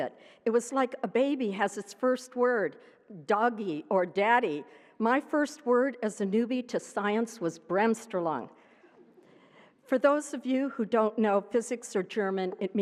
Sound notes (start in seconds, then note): none